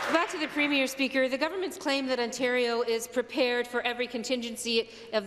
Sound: applause

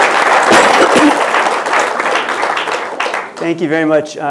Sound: applause

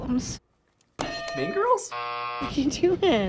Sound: buzzer

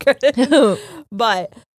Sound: both chuckles

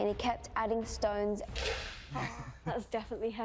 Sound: chuckling

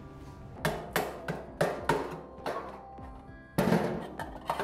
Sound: metal clangs

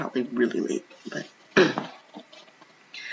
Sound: ahem

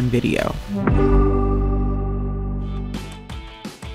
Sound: logo chiming; soft upbeat music

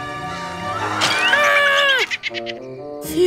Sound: screaming

